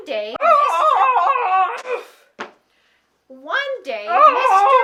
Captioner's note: yells